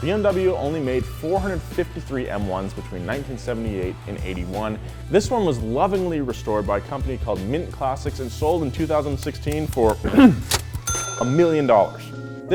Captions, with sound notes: BMW only made 453 M1s between 1978 and '81. This one was lovingly restored by a company called Mint Classics, and sold in 2016 for (clears throat), a million dollars.